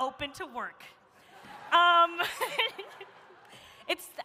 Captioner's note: laughs